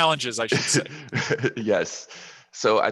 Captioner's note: laughs